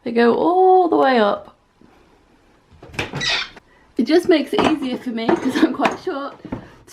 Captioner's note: squeaky hinge sound